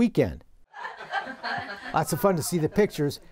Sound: laughter

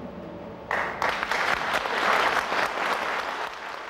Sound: crowd applauds

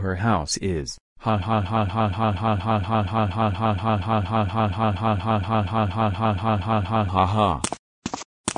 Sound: laughing

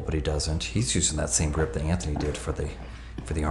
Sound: none

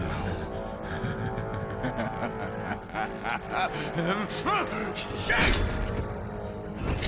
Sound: laughs

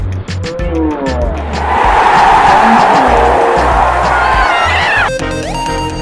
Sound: crowd cheering

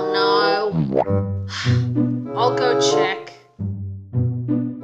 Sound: sighs

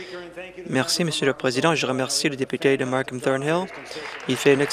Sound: applause

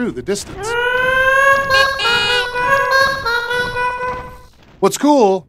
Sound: honking

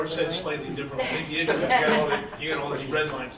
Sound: woman laughs

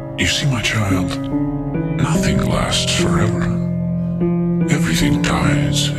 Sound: deep voice

